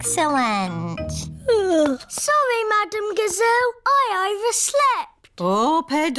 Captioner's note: yawns